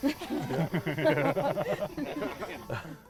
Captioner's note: laughter